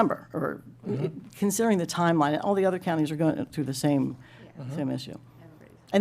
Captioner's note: clears throat